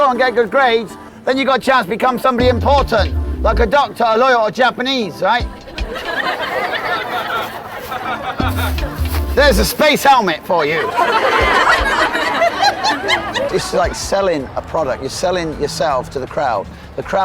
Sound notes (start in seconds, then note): 6.0 audience laughing; 12.1 audience laughing